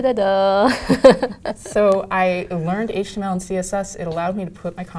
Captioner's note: laugh